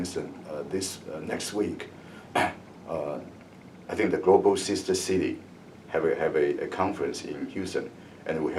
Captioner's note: coughs